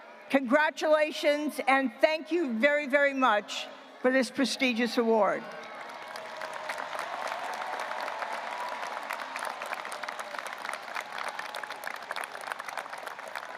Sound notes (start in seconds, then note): 5.5 audience applauding and cheering